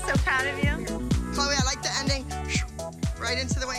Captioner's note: whooshes